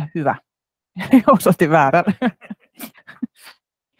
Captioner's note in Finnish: Nauraa